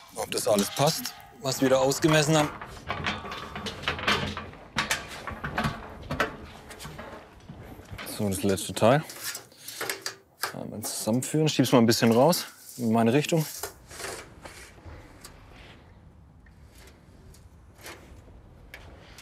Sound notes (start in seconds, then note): 3.0 rattling